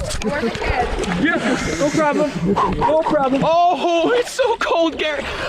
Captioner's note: woman speaking in background